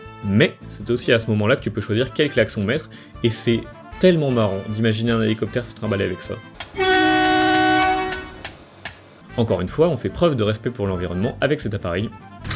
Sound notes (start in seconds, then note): 6.7 giga honk sound